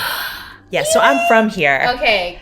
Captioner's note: gasps